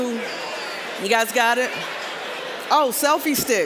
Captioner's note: general chatter